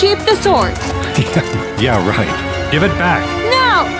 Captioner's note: chuckles